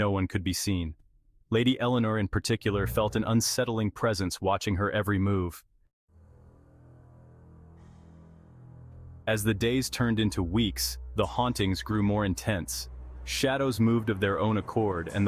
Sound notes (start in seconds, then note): 9.6 voice-over